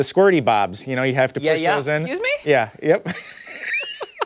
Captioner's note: laughter